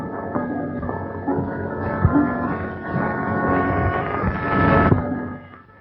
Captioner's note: thunder